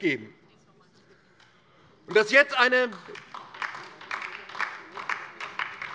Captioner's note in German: Beifall DIE LINKE